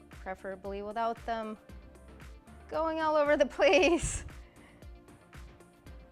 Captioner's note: laughs